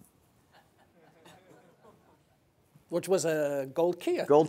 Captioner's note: audience laughing